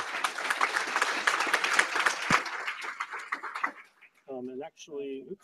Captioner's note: applause